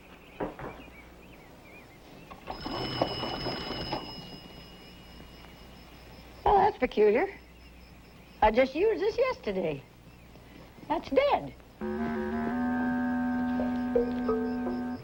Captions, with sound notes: (phone rings) Oh, that's peculiar. I just used this yesterday. That's dead. (suspenseful music)